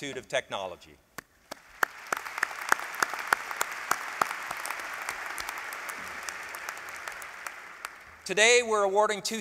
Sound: applause

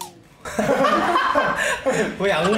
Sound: laughing

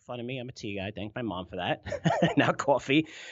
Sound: laughs

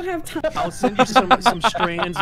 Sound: laughter

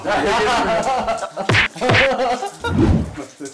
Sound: shuuk

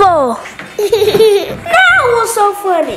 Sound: laughing

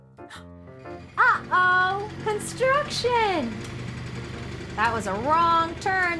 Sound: truck rumbling

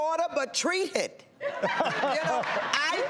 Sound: laughing

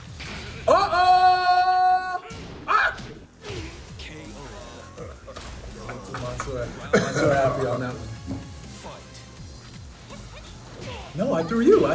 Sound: laugh

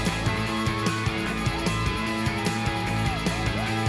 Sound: cheering

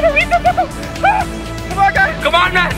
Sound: squeals

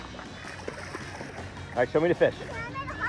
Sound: water burbles

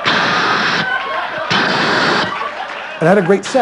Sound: laughter

